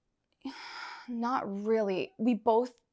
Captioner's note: Georgia sighs